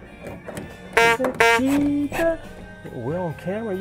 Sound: clown horn blowing

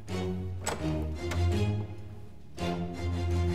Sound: sound of door opening

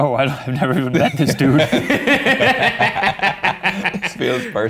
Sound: laughing

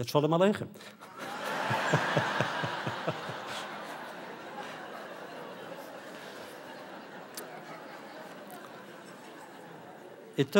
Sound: audience laughter

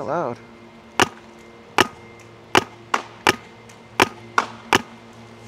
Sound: paintball gun shooting

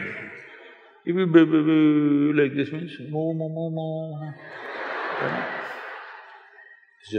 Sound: laughter

